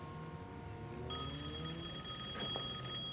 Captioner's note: telephone rings